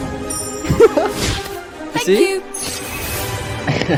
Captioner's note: laughs